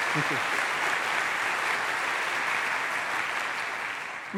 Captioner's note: applause